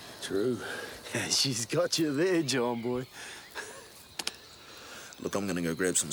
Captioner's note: laughs